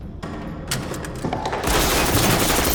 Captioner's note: gunshots